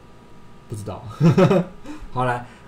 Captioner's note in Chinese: 笑聲